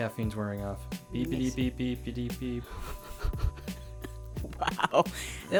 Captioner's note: laughs